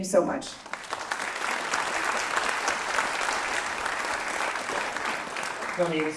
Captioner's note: applause